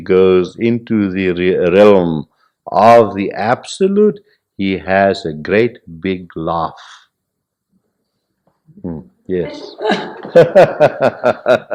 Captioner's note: laughter